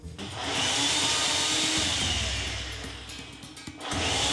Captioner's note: food processor whirring